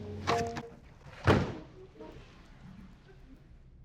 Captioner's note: slams door